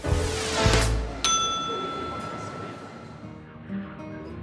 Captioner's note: ding